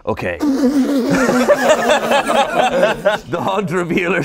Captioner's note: everyone laughing